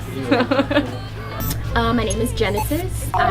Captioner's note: laughing